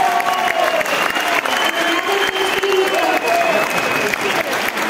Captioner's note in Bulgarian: аплодисменти